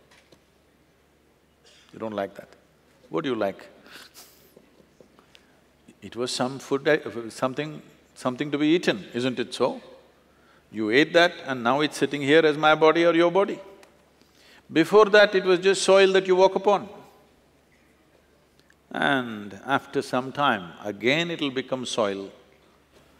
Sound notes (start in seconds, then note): 4.7 laughs